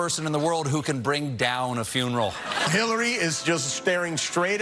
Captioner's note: laughing